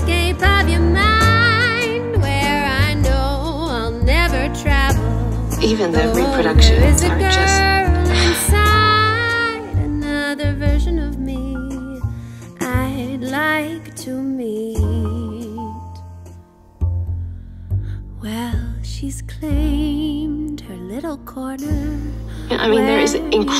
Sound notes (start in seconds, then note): 0.2 singing; 7.1 sighs